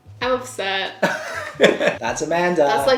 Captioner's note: both laughing